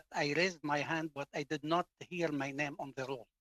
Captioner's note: speaking French